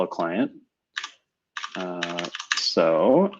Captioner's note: typing